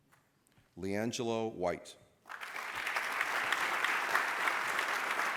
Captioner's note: applause